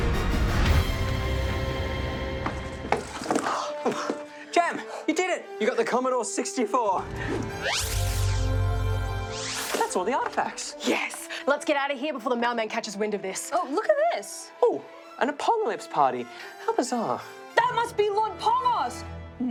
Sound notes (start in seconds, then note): 3.2 sighs; 7.6 angelic singing